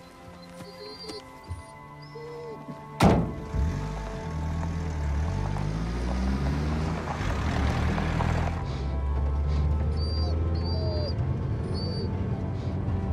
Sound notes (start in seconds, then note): 3.0 car door slamming; 9.8 whimpering